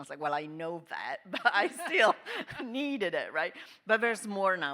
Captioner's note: panelists laughing